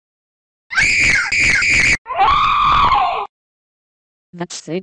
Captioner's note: shrieking loudly